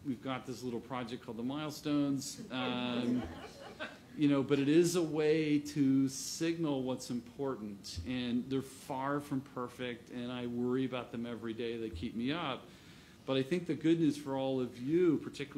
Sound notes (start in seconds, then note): 4.9 laughter